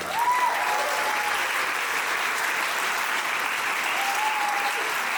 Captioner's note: audience applauding